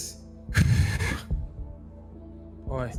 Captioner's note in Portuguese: respira fundo